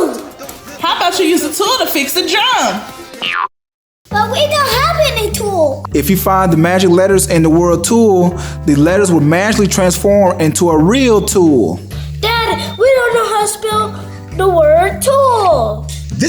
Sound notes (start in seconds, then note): 3.2 boinging